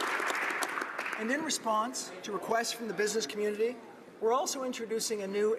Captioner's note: applause